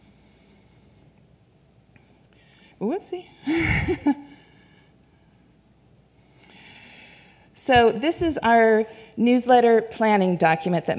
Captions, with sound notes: Whoopsie (laughs). So, this is our newsletter planning document